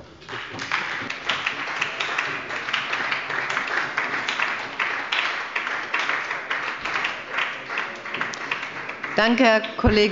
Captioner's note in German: Beifall bei der SPD